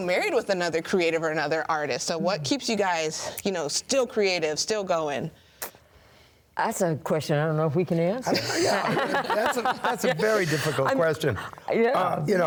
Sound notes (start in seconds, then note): 8.3 laughs